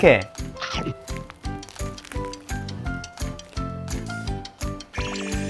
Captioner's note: Munch